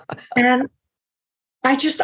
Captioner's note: laughing